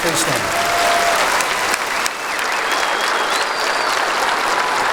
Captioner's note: applause